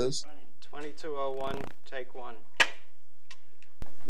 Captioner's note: clapper